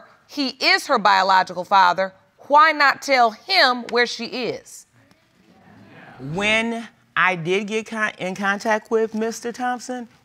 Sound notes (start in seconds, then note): none